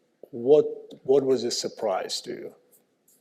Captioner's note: none